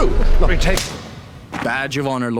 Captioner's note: smack